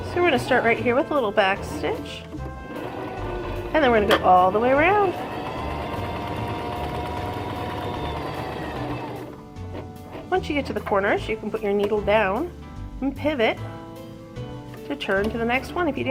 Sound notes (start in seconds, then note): 5.0 whirring